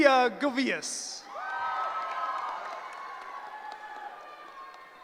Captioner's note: cheering